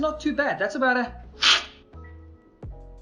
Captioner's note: slurping